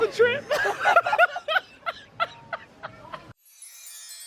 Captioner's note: laughs; magical music